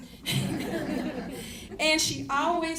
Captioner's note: laughter